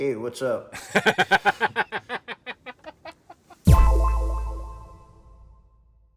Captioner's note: laughing